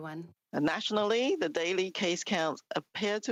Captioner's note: speaking French